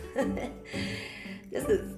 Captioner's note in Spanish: inhala por aire